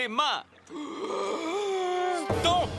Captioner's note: inhales deeply